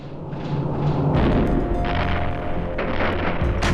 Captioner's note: explosions